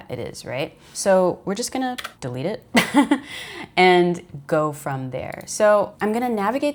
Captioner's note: laughs